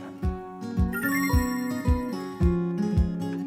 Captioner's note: sparkling sound effect